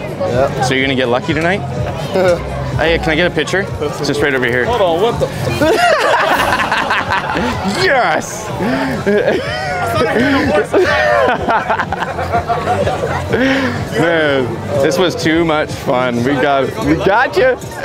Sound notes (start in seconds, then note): 2.0 chuckle; 7.1 laughs; 10.1 laughing